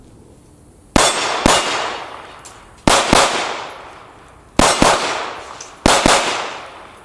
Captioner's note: gunshots